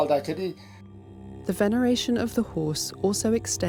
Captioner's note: voiceover